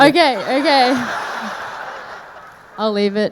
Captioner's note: audience laughing